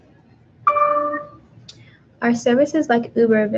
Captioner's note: computer dings